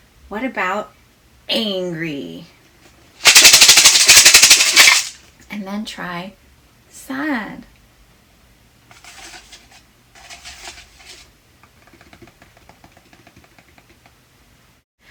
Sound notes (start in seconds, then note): 3.2 shaking beads loudly; 8.9 soft scraping and tapping